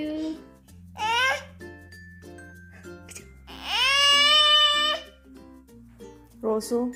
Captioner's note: baby sounds